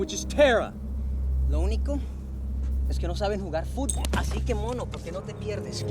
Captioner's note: Rovira speaking Spanish